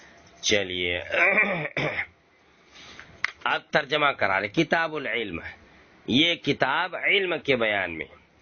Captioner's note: he clears his throat